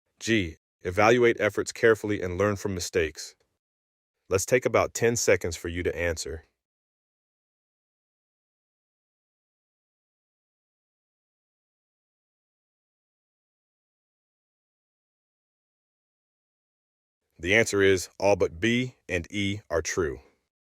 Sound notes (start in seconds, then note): 6.8 no audio